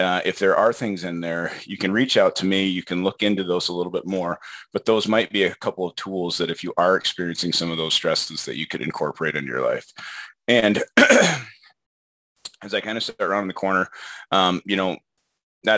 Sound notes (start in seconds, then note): 10.8 clears throat